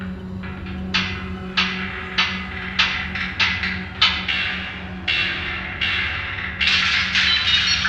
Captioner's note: sound of banging metal